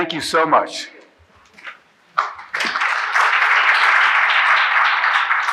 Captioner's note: audience applauding